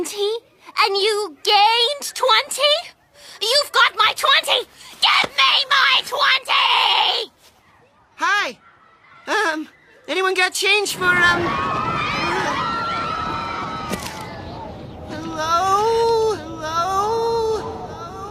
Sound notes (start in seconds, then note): 13.8 kids yelling